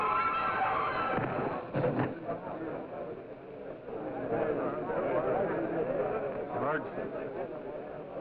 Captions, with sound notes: (dancer thuds) (people chattering) - George, let's go home.